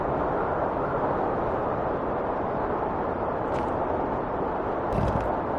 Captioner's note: wind whistling continues